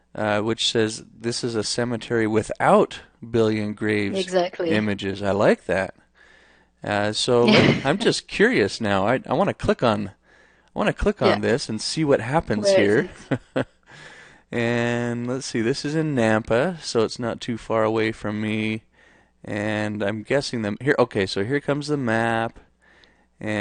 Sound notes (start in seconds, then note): 7.4 laughs; 12.5 laughs